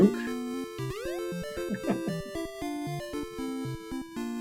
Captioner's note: chuckles